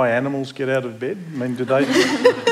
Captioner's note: laughter